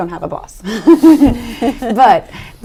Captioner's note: laughs